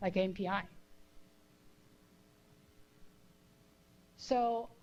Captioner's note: pause